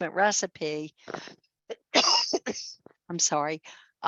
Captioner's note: coughs